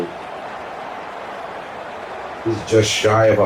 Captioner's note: crowd Noises